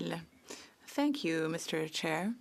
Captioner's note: speaking French